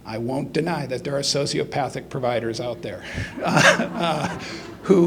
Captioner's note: laughs; audience laughs